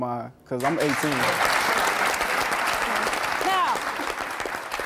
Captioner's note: audience clapping